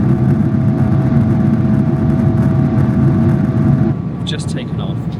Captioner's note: engine rumbling continues